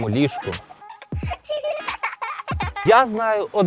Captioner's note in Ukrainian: сміх